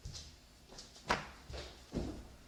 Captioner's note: thump